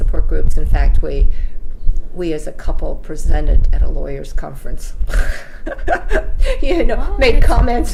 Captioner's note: laughs